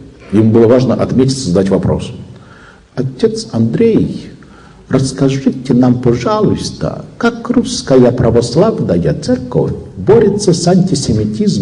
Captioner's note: parodying Finnish accent